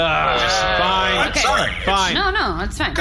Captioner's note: groaning